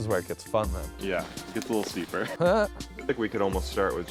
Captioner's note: chuckles